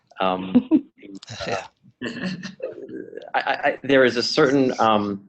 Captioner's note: laughing